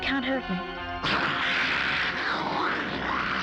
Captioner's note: snarling